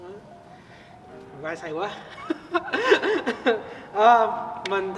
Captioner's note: laughs